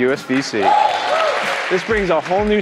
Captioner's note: cheering